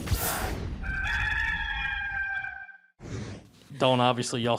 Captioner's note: cock crows